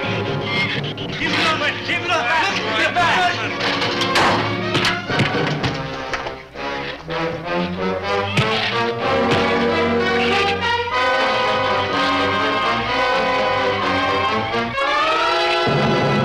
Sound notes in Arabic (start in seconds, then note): 1.1 المجموعة تصرخ على بعضها البعض; 4.0 ضربات القبضة; 8.3 ضربات القبضة